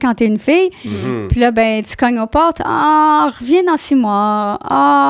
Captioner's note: in french